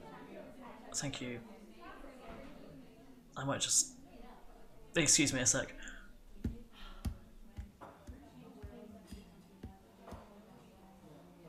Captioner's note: receding footsteps